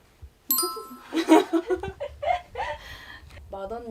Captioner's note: girls laughing from just making eye contact